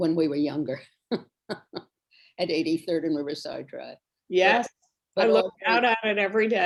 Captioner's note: laughs